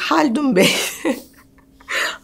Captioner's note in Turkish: Gülüyor